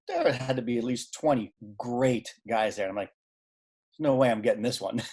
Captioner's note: laughing